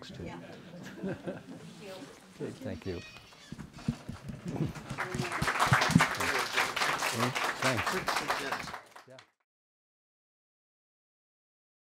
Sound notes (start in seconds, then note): 0.7 audience laughs; 4.0 audience applauds